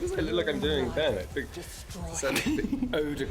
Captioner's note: laughs